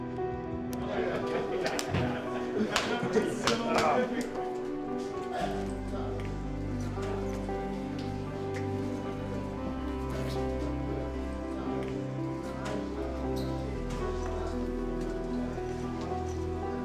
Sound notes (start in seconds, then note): 1.1 hands slapping; 4.0 soft piano music